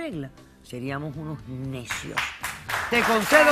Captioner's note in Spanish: Aplausos